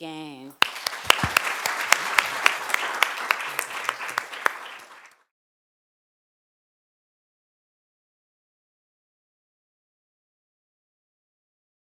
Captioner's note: applause